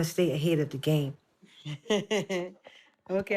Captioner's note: chuckles